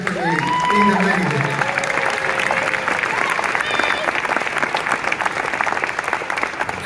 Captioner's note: audience cheers and claps